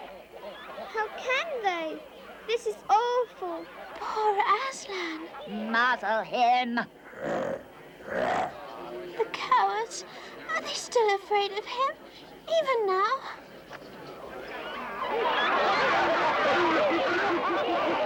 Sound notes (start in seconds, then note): 8.0 growls; 14.9 laughter and happy chatter